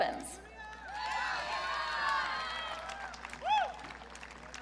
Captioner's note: audience cheering